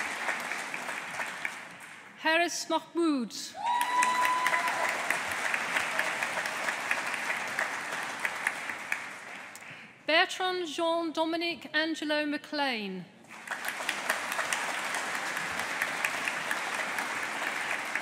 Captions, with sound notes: Hares Mahmood. (AUDIENCE APPLAUDING) Bertrand Jean Dominic Angelo McClane. (AUDIENCE APPLAUDING)